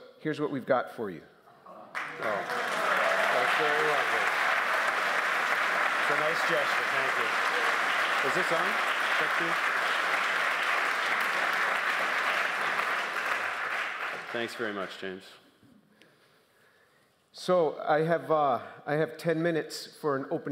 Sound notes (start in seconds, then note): 10.9 applause